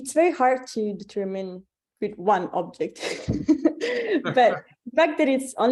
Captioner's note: chuckles